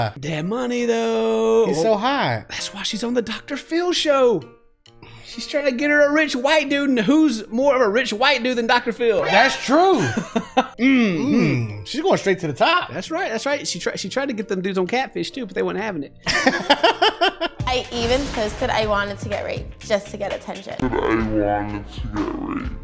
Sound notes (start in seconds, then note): 16.2 laughter